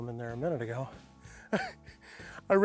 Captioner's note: chuckles